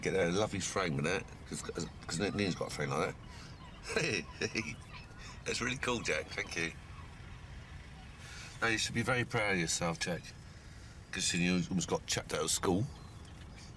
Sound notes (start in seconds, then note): 1.5 laughs